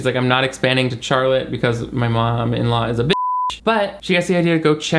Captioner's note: beep